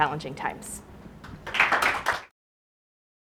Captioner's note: audience applauds